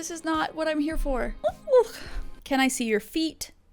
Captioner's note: exclaims